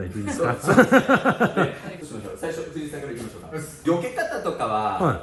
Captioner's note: laughs